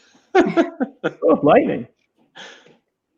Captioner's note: laughing